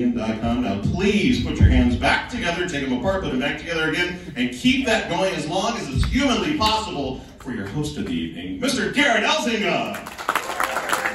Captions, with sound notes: Now please put your hands back together take'em apart, put'em back together again and keep that going as long as is humanly possible for your host of the evening, Mr Gerrit Elzinga. (Audience applause)